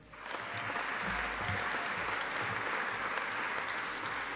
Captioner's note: audience applauding